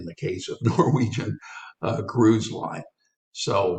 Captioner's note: laughs